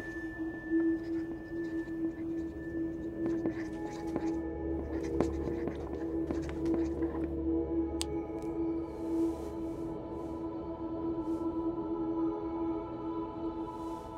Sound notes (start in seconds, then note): 2.8 marker squeaking